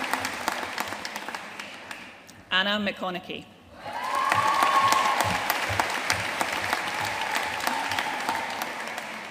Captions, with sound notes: Anna McConaghy. (AUDIENCE CHEERING AND APPLAUDING)